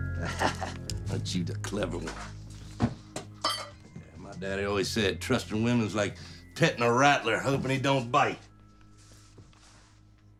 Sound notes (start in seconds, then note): 0.1 chuckles